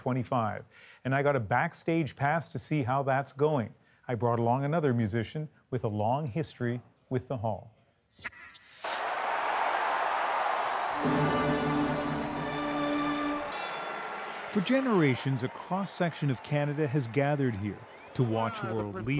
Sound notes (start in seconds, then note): 13.1 applause